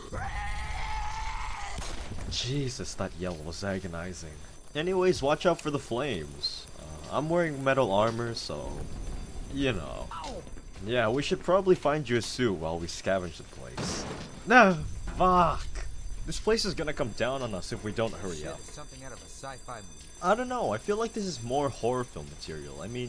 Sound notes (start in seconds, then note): 0.0 zombie screeching; 1.7 gunshot; 13.6 crash